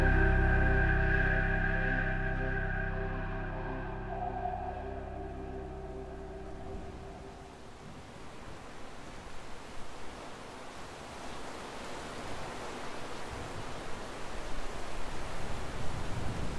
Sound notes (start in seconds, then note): 7.9 heavy rain whooshing